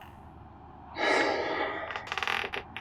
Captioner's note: Ludlow exhales heavily